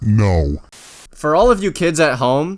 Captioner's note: static